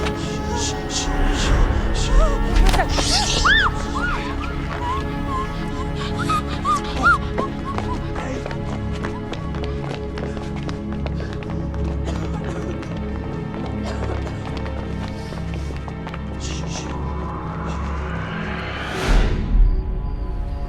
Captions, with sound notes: SHH, SHH, SHH. ( SQUEALS ) HEY!